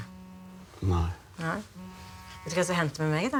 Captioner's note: phone buzzing